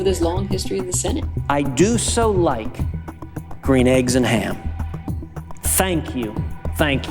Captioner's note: soundbite of archived recording